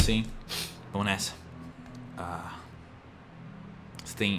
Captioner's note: sniffs